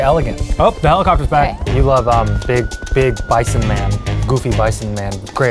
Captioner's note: sirens blaring